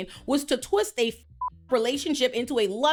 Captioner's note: beep